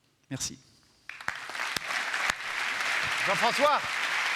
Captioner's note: applause